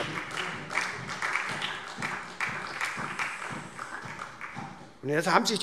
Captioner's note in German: Beifall SPD